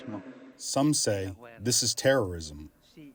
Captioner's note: through translator